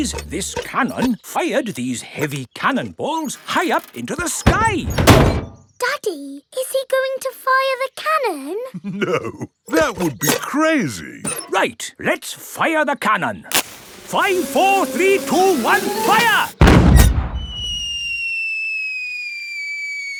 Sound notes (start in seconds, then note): 8.8 chuckling